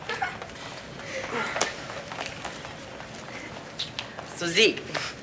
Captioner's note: breaths deeply